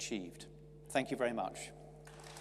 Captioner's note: audience clapping